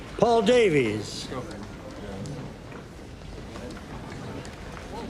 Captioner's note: chatter